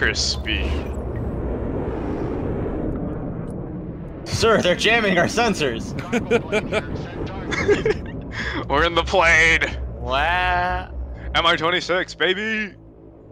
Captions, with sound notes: Lunderstick speed *More thunder sounds as the planes fly* Sir, they are jamming our sensors. *laughing* We're in the plane MI26 baby!